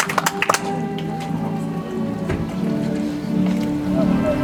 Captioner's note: audience applauds